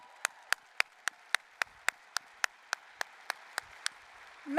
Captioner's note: applause, cheering